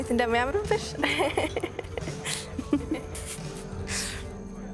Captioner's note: laughter